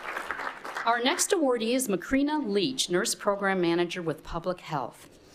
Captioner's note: appluase